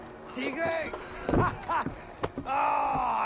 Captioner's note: laughs